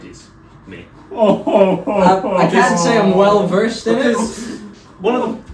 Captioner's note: Santa crying